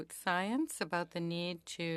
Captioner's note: speaking French